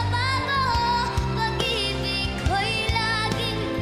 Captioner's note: none